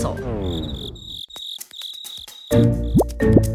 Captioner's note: crickets chirping